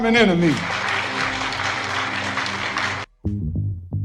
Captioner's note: audience applauding